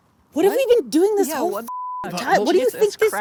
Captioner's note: beep